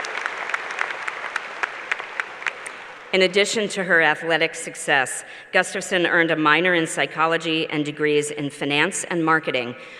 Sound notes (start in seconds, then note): 0.0 applause